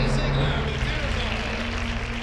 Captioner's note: applause